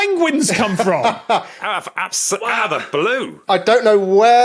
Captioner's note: laughs